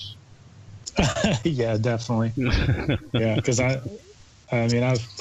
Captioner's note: laughs